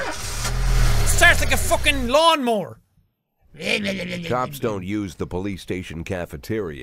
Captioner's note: imitates a lawn mower